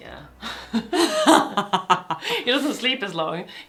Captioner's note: both laugh